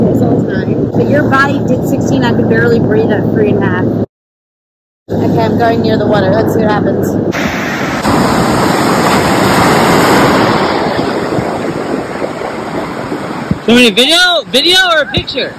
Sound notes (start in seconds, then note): 7.2 ocean noise